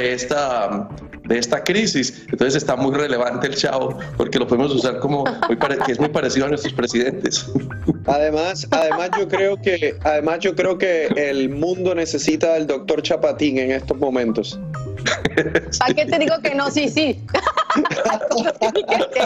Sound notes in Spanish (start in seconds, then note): 15.0 risas